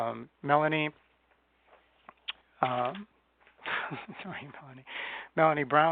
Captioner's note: chuckles